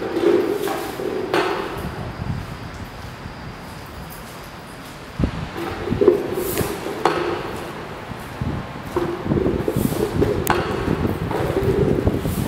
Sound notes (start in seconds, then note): 0.0 broom sweeping; 6.2 broom sweeping